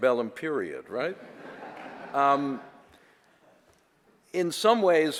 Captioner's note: audience laughter